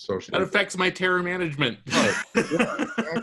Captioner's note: laughs